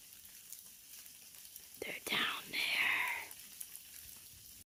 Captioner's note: whispering